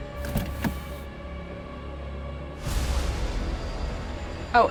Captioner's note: slow dramatic music; car door clicks